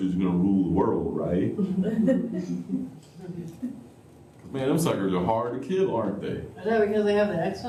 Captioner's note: laughter